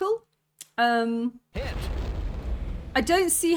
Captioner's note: hit